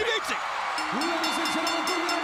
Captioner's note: bell ringing